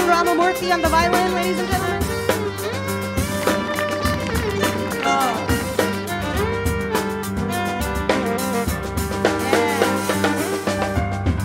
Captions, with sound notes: Arun Ramamurthy on the violin ladies and gentlemen. (audience claps)